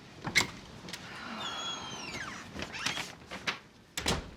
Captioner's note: Paula sighing